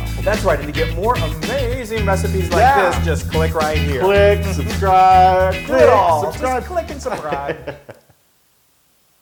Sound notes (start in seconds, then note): 7.6 laugh